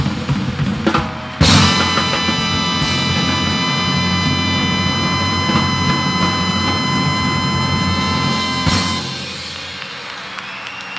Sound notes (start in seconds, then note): 1.5 audience cheering; 2.3 audience applauding